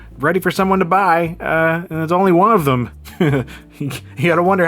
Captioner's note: chuckles